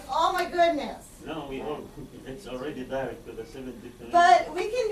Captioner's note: student speaks softly